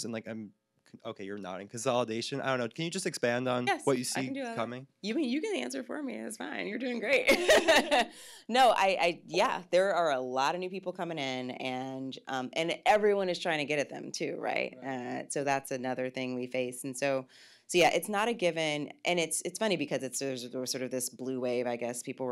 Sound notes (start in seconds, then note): 7.0 laughs